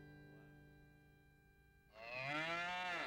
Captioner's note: cow moos